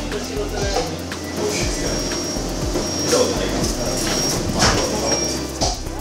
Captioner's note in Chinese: 嗶嗶